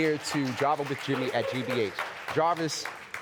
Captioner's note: audience applauding